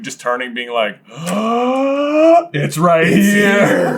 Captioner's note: gaaaaaaaaaaasp